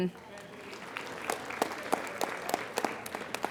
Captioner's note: applauding